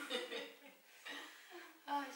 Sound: laughing

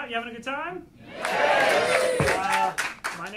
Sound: audience applauding

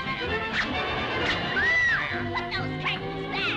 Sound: scream

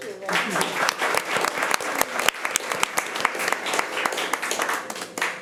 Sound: committee applauding

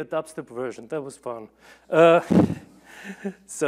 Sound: laughs

